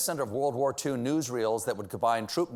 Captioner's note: whispering a.s.m.r